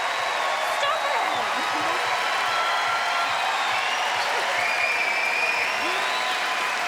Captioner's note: giggles